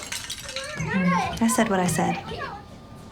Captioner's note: glass breaking